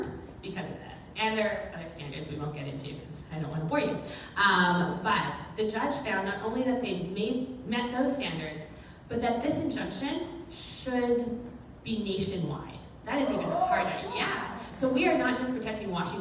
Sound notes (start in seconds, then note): 13.2 crowd cheers